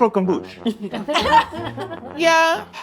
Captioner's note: Rosanna laughs